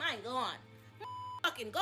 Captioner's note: beep